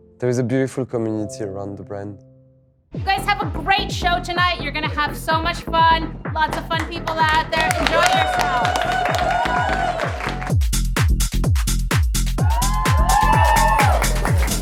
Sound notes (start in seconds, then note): 8.9 all cheering and clapping; 11.0 dynamic music